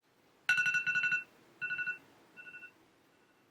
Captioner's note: alarm going off